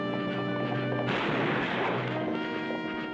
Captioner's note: gunfire